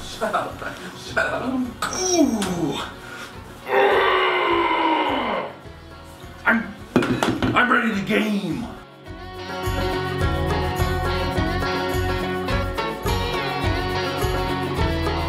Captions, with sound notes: (grunting) I'm ready to game. (upbeat music)